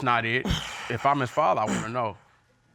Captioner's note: huffs